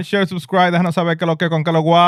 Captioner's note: speaking In Foreign Language